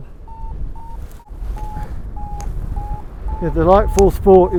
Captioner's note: Vario beeps